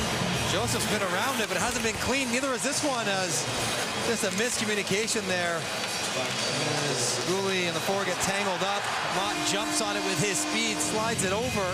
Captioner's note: cheering and Applause